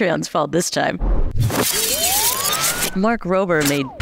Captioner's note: graphic whirring